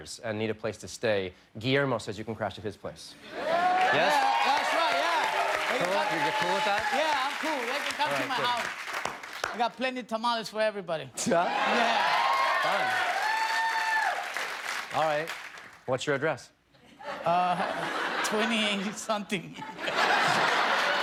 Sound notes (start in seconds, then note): 13.4 cheers and applause; 19.5 laughter